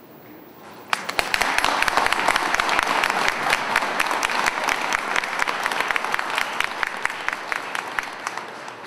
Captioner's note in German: Beifall